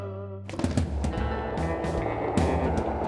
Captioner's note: skateboard rolling